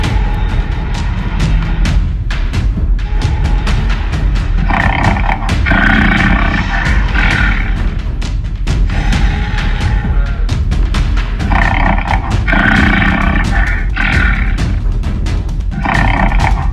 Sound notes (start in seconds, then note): 0.2 Indominus Rex roaring in the distance; 4.8 Albertosaurus growling